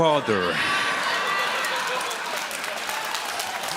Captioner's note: audience laughs